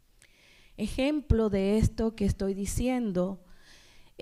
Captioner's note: speaking spanish